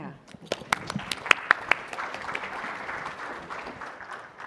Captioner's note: audience applauding